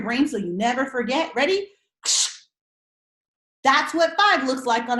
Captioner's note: making camera flash sounds